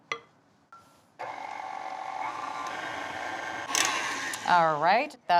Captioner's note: mixer whirring